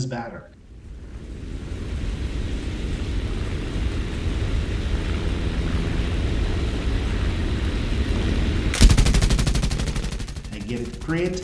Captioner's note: aircraft Engines ,Gunfire, Flying Sounds